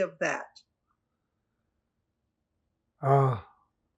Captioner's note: pauses 6 seconds